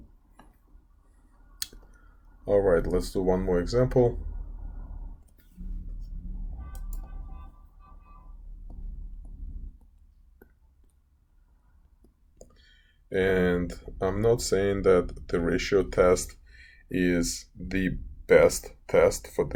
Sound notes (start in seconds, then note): 4.8 traffic Sounds